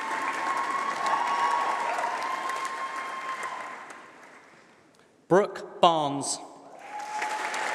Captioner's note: applause; applause